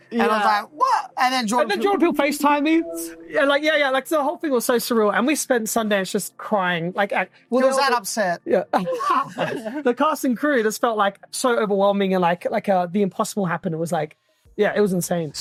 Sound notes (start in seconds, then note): 8.7 laughs